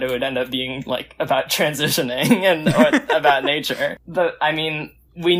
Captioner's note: laughs